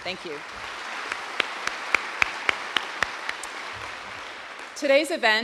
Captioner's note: audience applauding